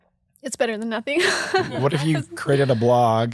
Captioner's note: laughing